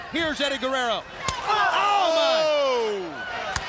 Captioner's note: blows thudding